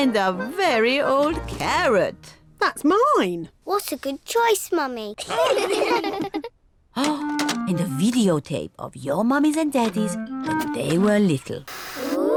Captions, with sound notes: And a very old carrot. -That's mine! -What a good choice, Mummy. (ALL LAUGH) Oh! And a videotape of your mummies and daddies when they were little.